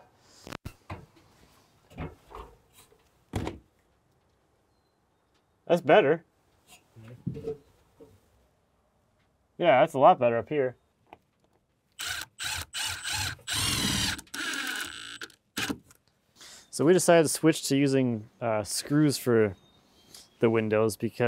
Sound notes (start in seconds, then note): 11.9 drill whirs